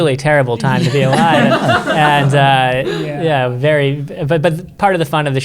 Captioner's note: everyone laughing